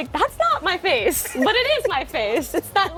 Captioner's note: laughing